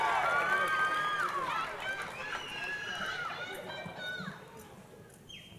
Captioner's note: crowd cheering and applauding